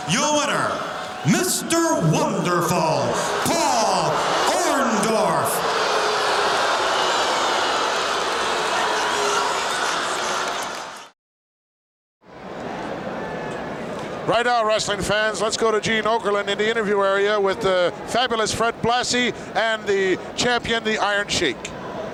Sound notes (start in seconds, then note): 5.0 audience shouting